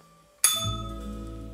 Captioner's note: bell rings